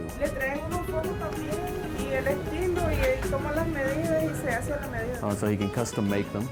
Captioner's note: speaking Spanish